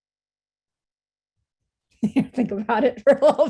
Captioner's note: laughing